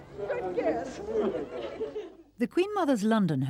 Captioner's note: laughing